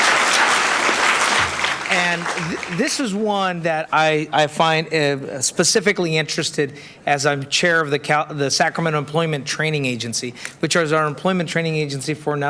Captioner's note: applauding